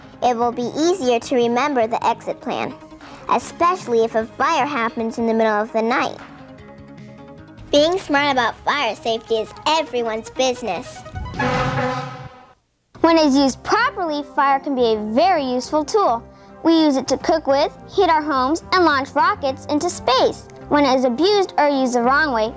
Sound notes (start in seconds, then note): 10.9 horn honking